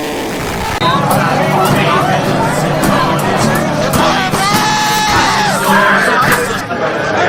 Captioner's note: bar hum